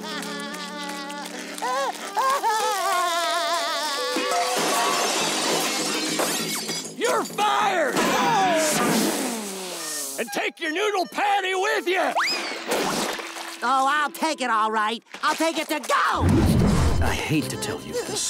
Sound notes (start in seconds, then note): 0.0 crying; 4.0 banging